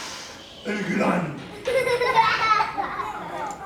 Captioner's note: children laughing